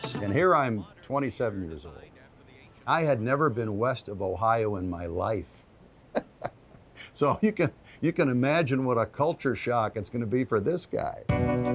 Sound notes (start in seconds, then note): 6.0 chuckles